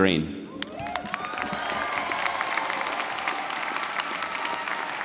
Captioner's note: audience applauding